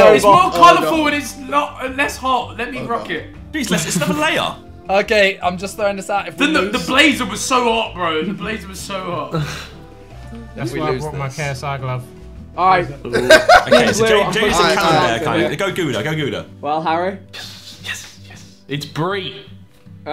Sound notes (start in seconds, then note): 13.1 laughing